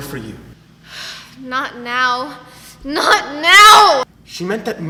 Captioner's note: sighs